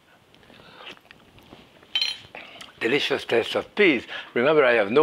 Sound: slurps

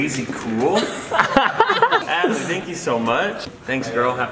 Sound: laughter

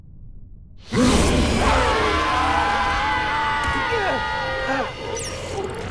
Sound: screaming

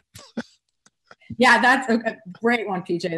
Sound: laughter

